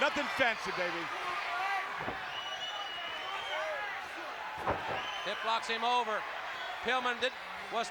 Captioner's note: applause